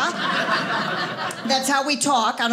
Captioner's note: audience laughing